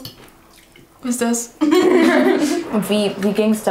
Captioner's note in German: Lachen